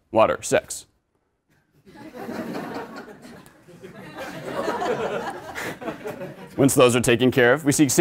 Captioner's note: laugh